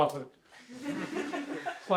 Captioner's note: laughter